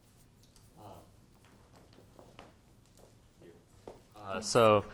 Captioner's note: footsteps clomping